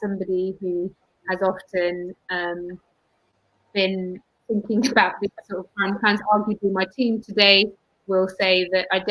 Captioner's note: erm; erm